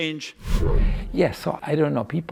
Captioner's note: transition sound effect